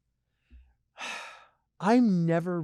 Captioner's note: sighs